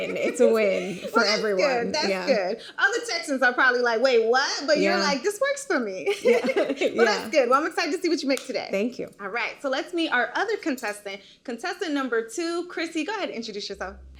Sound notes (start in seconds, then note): 6.2 laughing